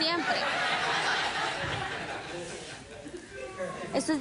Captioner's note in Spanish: Risas del público